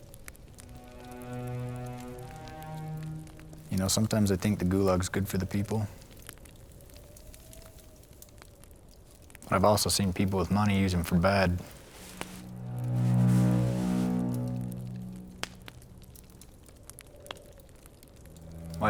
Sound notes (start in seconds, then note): 0.3 soft music; 7.2 fire crackling; 12.2 soft music; 15.7 fire crackling